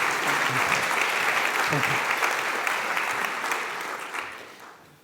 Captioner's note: audience applauding